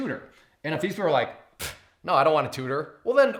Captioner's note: blows air with mouth